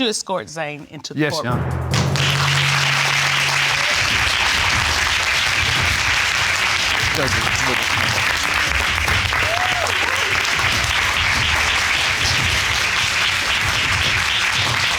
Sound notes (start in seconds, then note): 3.2 audience applauding